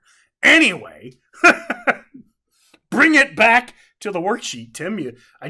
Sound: laughs

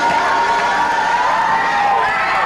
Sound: cheering

